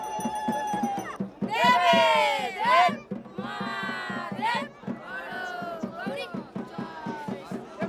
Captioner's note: cheers